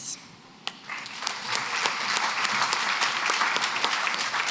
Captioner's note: applause